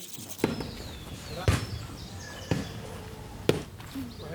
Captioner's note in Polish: odgłos odbijania piłki